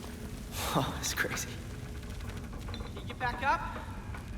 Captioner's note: chuckles